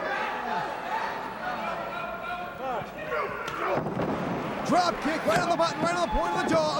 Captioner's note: crowd chatter